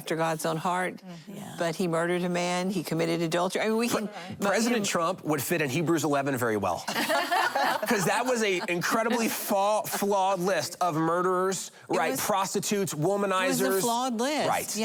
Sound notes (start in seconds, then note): 6.9 laughing